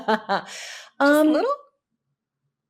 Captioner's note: laughs